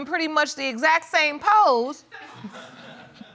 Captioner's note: audience laughs; chuckles